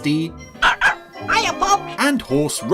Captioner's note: barking